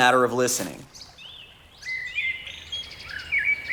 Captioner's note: birds chirping